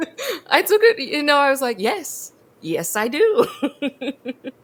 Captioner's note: both laugh; laughs